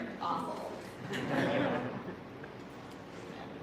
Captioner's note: laughter